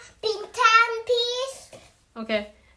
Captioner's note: my son speaking Bhs.Brunei